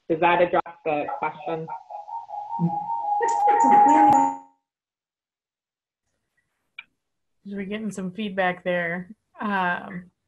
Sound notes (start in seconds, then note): 2.4 distorted microphone sound